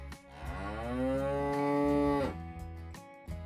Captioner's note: cow Moo